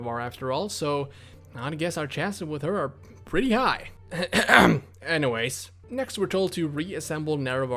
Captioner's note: ehem